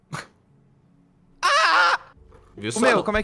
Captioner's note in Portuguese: aaah!